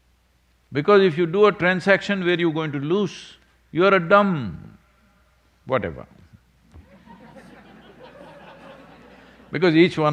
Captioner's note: laughter